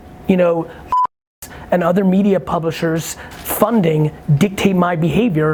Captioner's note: beeps